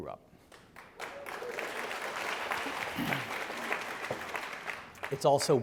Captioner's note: audience applauding